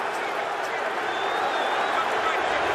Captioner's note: crowd cheering